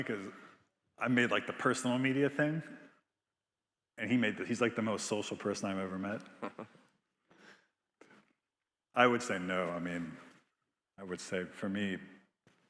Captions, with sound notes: 'cause I made the personal media thing, and he made, he's like the most social person I've ever met. (Biz laughing) I would say no. I would say for me,